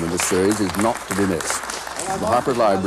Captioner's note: applause